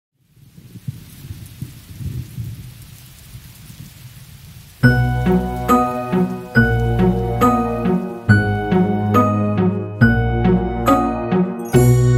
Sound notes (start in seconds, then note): 0.6 thunder resonating; 4.8 soft music